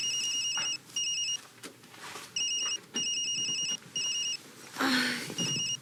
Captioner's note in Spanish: Suena el celular